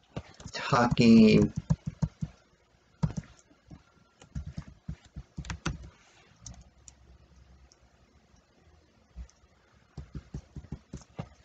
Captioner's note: tapping of keyboard